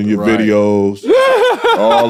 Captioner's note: laughing